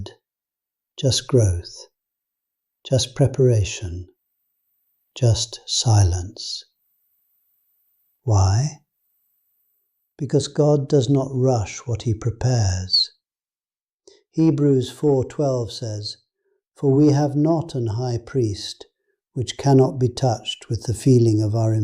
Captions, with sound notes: No crowds gathered. Just growth. Just preparation. Just silence. [thoughtful] Why? Because God does not rush what He prepares... Hebrews 4:12 says “For we have not an high priest which cannot be